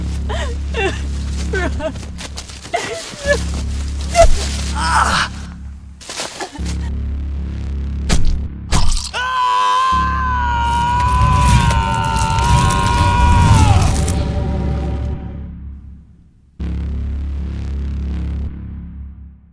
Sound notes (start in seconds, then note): 0.1 Michelle sobbing; 8.7 multiple stabbing impacts; 13.5 whoosh